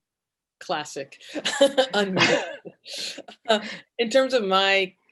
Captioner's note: chuckles